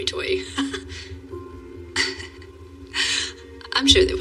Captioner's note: chuckling